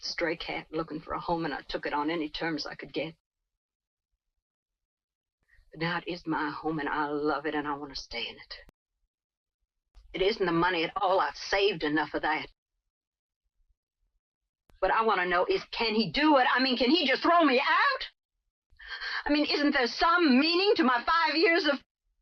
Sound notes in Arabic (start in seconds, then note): none